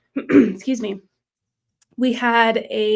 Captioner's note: coughs